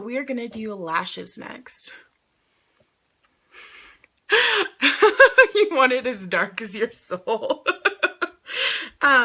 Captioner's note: laughing